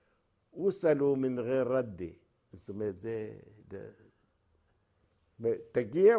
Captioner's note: Arabic